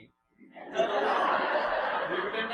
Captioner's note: laughter